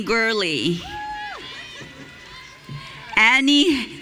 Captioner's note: audience cheering